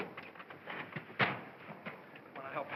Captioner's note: feet thump